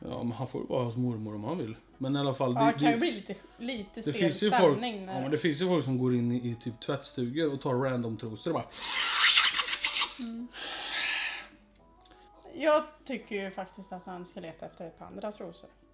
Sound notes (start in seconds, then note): 8.7 sniff